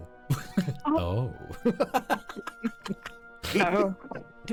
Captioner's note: laughter